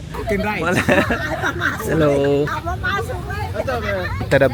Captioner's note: laugh